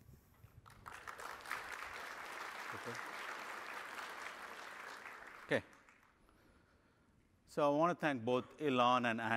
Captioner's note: applause